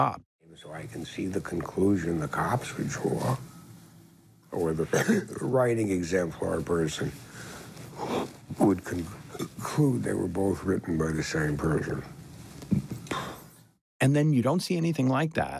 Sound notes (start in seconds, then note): 4.8 coughs, belches; 8.1 belches; 13.0 exhales